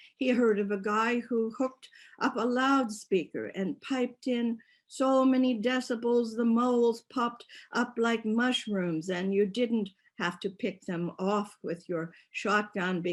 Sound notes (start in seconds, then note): none